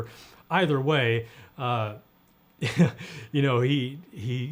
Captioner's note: laughing